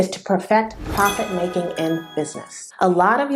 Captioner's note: sound effect